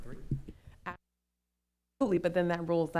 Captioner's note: mic cuts out